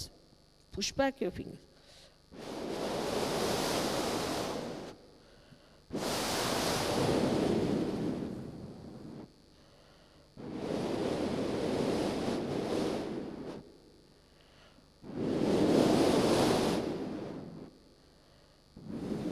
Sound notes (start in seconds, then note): 2.0 shri mataji blows into the microphone; 10.1 shri mataji blows into the microphone